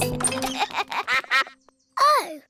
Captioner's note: quacks